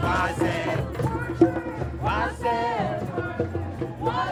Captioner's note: crowd